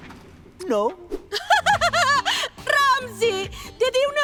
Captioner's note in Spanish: Riéndose